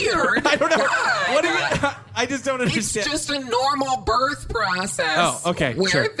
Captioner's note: Pleck stammers defensively